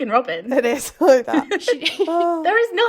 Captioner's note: laughing